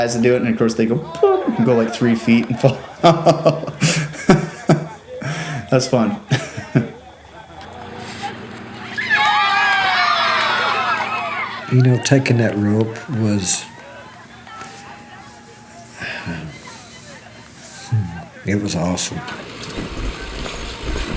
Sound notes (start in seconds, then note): 3.6 chuckling; 8.3 everyone cheering